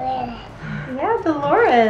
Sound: babbles

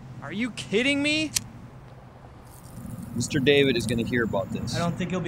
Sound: none

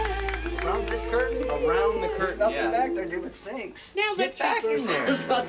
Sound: band members chattering

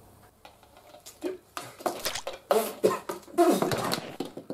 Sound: spluttering and splashing

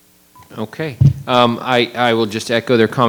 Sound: microphone beeping

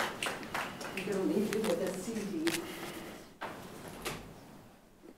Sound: audience members clap

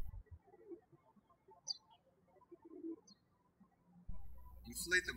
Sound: birds chirping

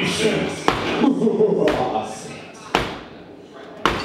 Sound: more evil laughter

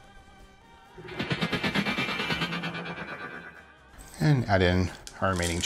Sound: metallic vibrating

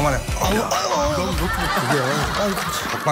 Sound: agonizing sound already

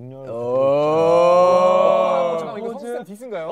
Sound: cheering

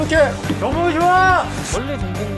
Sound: hammering it in

